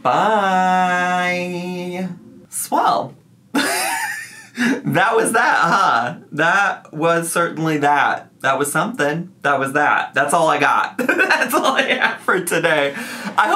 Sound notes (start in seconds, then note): 3.6 laughs; 11.2 laughing